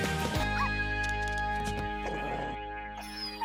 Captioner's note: dog growling